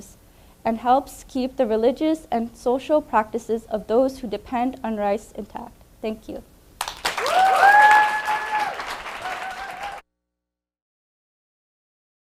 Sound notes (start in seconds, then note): 6.8 audience applause; 6.9 audience cheering